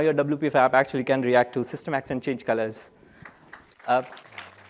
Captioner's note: applause